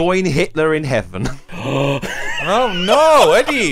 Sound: all laughs

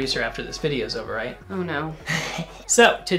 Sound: laughs

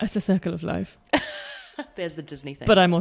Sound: laughs

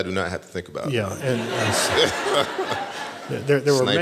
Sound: laughter

